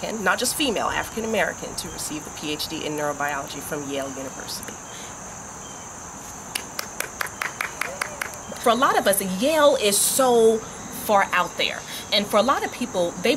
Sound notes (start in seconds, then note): 6.5 applauds